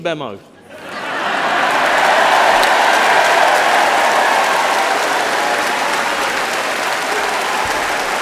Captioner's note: laughter